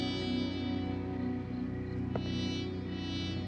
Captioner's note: crickets chirping